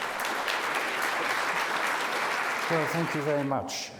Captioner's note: audience applauds